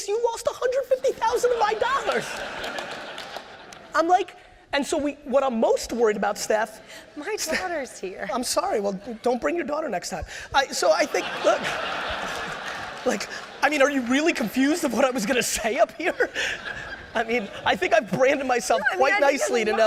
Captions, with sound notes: You lost 150,000 of my dollars. What I'm most worried about, Steph-- - My daughter's here. - I'm sorry. Well don't bring your daughter next time. (audience laughter) Are you really confused of what I was going to say up here? I think I've branded myself quite nicely to know--